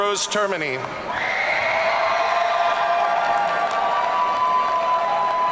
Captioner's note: audience cheering